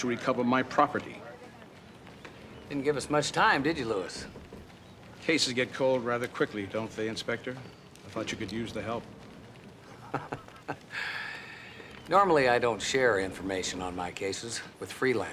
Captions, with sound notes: since it'll ease your burden and help to recover my property. Didn't give us much time, did you, Lewis? Cases get cold rather quickly, don't they, Inspector? I thought you could use the help. (chuckles) Normally, I don't share information on my cases